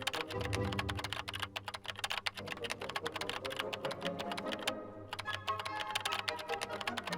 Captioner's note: keyboard clicking; dramatic music continues